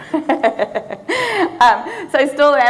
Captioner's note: audience laughing; laughing